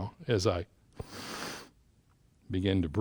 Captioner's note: inhales